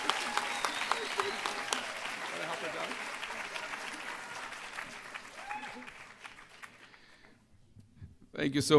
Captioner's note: applause